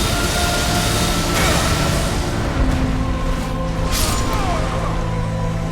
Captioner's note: attacks whooshing; dramatic music; character grunting